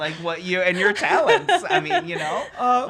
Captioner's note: laughing